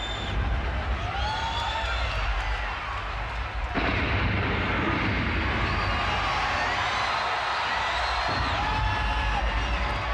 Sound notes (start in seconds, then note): 0.2 crowd cheers; 3.7 thunder crashes; 6.3 crowd cheers